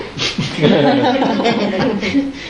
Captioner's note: laughing